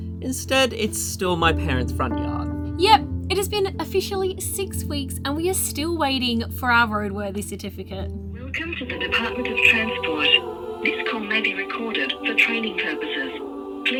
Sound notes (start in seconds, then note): 8.2 voice Over Phone